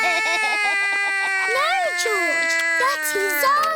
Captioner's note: george laughs; cries